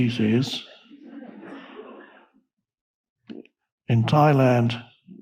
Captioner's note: audience laughing